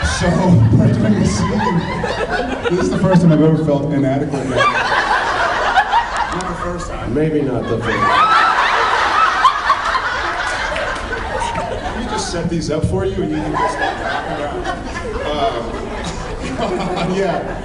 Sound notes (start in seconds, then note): 0.0 laughing; 0.0 laughs